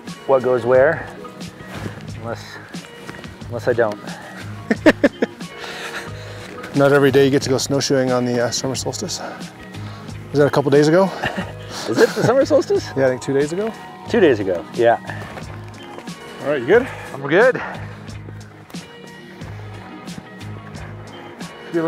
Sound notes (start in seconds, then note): 4.4 laughing